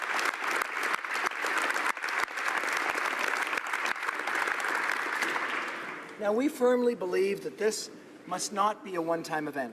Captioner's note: applause